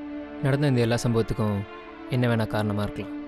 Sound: none

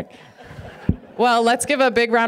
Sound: audience laughing

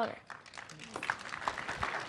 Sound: applause

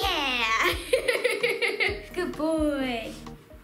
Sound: laughing

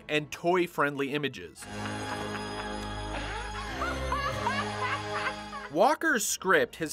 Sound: more of that maniacal laugh

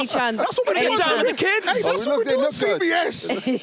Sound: laughing

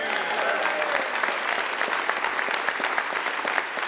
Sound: applause & cheers

